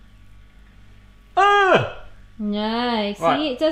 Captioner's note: groans